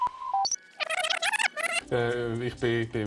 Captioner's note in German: Rückspulgeräusch